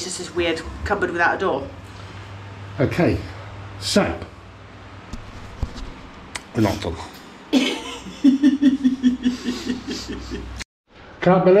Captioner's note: laughter